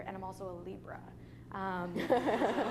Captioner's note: laughter